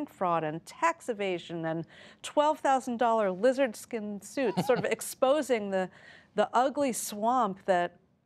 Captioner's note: laughter